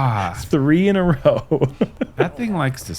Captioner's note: chuckles